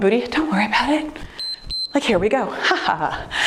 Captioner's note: timer beeps